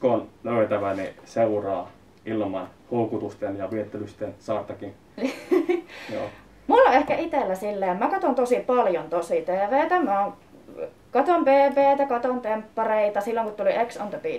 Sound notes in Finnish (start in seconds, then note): 5.2 naurahtaa